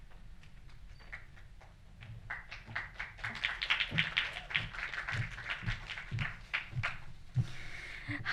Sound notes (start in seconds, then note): 1.9 audience clapping